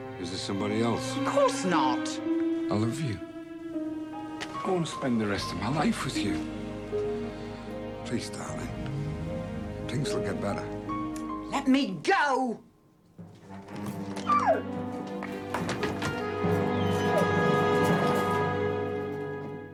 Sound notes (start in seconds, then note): 14.4 Patsy whining; 15.3 dramatic music